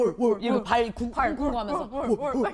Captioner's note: stomping stomping